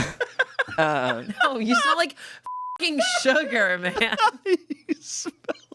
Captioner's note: everyone laughs; beep